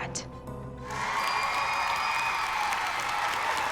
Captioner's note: cheering